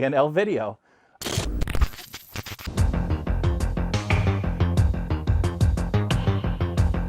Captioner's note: static sound; background music